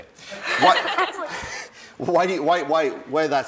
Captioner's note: laughing